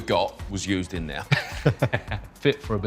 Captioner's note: laughs